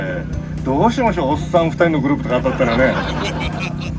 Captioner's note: laughs